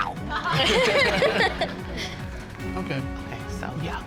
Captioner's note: all laughing